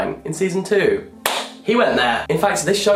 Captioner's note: claps